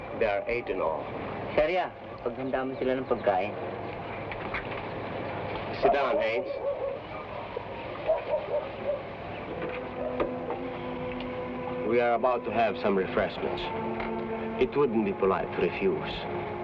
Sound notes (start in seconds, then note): 1.7 man speaking in Tagalog